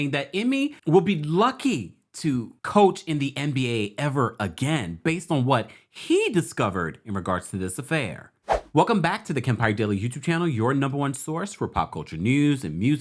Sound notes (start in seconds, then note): 8.4 screen whooshes